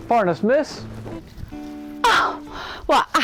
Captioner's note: gasp